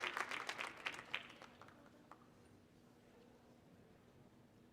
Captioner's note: audience applauding